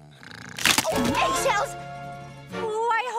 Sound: loud crack

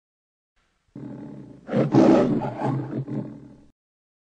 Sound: Leo the Lion purrs, then roars

